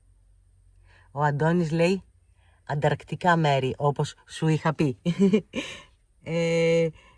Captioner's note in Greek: γέλια